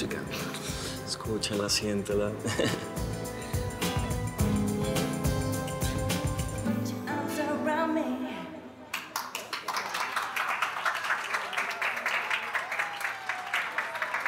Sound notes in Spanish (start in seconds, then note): 11.1 aplausos